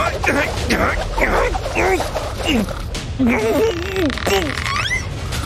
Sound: snoring; making fighting sounds; snoring

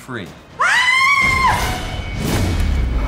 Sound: scream; door breaks open

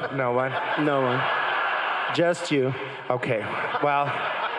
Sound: crowd laughing

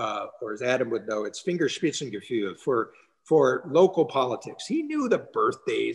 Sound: speaking german

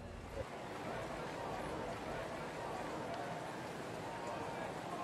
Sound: crowd murmurs

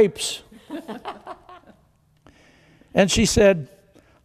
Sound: congregation laughs

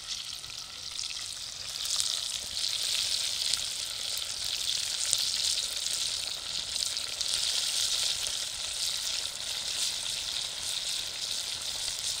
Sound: oil sizzling

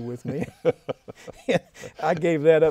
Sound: both laughing

